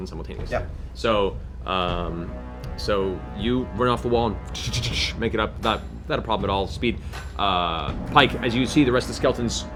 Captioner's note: running steps